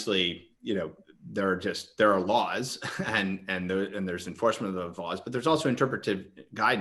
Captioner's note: chuckles